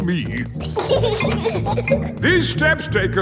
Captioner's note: giggling